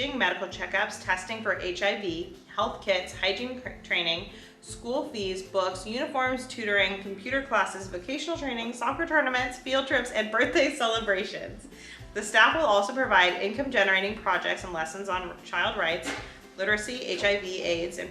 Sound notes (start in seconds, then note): none